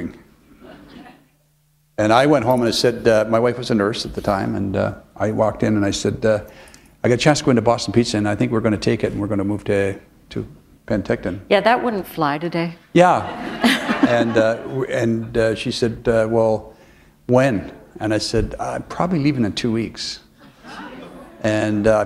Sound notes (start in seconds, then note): 13.2 laughter